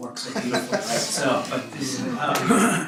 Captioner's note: laughter